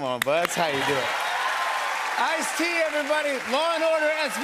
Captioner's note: cheers and applause